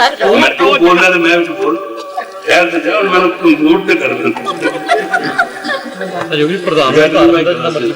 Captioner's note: laughs from behind